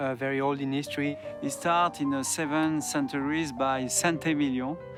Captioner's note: with French accent